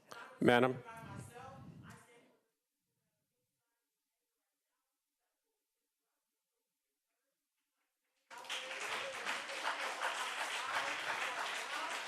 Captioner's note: applause